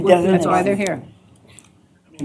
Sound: indistinct chatter

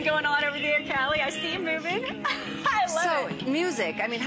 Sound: laughter

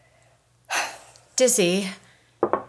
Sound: exhales

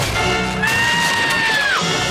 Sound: screaming

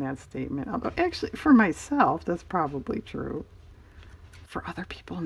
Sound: whispers

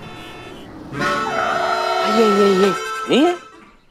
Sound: horn honking

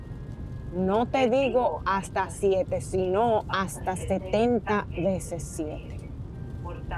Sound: speaking Spanish

